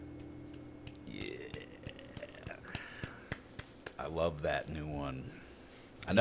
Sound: clapping

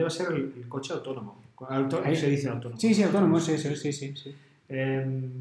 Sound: in spanish

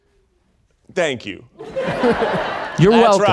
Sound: audience laughing

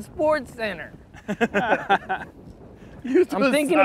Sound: chuckling

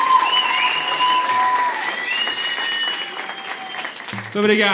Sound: applause

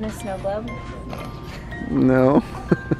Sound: laughter

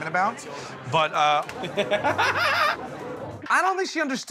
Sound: laughing

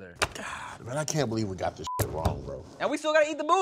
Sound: beep

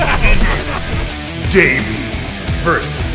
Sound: laughing

